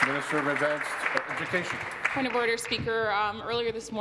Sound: applause

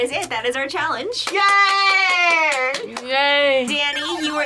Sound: claps

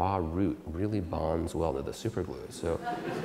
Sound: audience Laughter

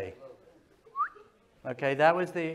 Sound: whistles

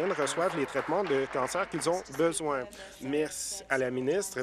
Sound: applause

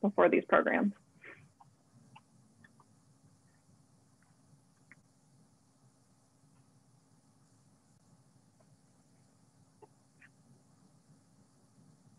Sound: silence

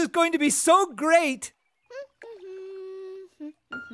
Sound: humming

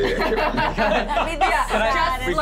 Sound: laughing

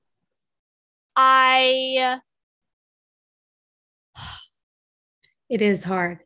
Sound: sighs

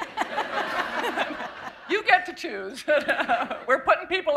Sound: laughter

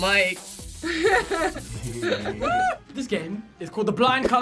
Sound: both laugh

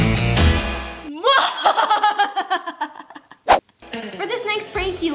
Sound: laughs mischievously

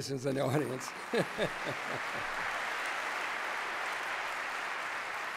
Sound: cheers, applause

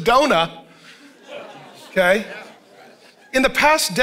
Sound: congregation laughing

